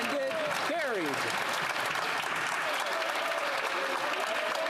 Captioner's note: some Applause